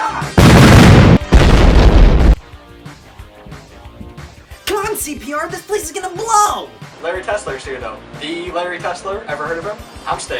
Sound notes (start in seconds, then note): 0.3 explosions